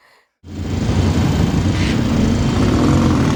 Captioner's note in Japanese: バイクの音